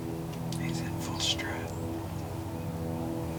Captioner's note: whispering